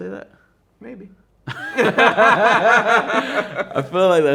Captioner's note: both laughing